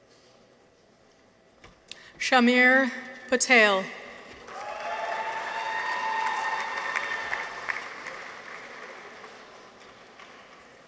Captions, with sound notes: Shahmeer Patel. -(people cheer) -(audience applauds)